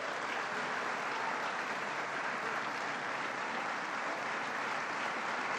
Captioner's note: applause